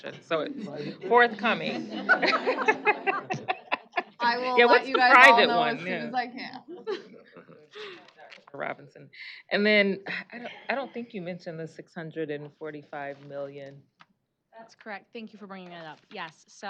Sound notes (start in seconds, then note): 1.6 laughing; 6.7 chuckling